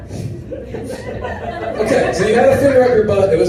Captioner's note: laughter